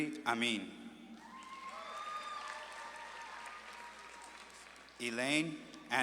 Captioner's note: audience claps and cheers